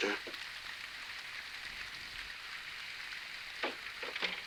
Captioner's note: rain pattering